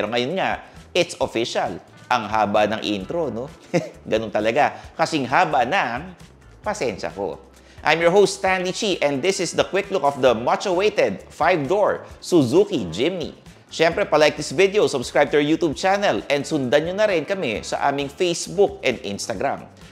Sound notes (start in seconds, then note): 3.6 chuckles